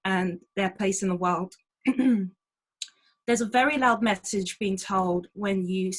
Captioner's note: clears throat